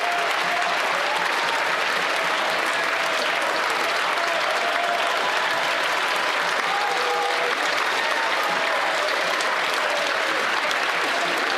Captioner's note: some Applause